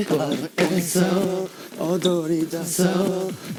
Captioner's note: panicking